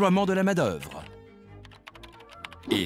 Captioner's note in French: cliquetis du clavier